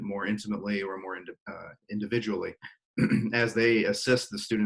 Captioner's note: clears throat